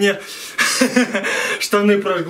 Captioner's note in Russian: Смех